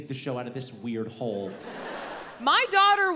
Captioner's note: audience laughs